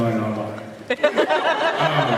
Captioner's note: laughs